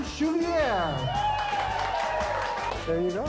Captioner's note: cheering